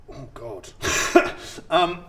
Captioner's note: laughs in no idea at all